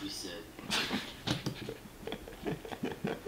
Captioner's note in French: rire